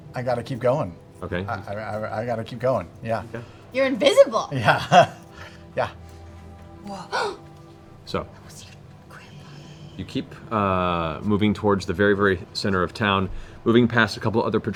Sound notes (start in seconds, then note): 4.2 laughs